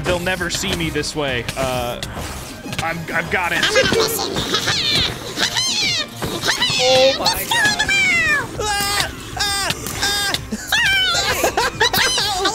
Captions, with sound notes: They'll never see me this way. I've got it. I'm on a mission! Oh, my god. Destroy them all!! [screaming] Charge! Attack!